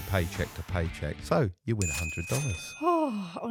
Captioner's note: bell dinging